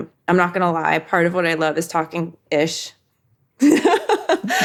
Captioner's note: laughs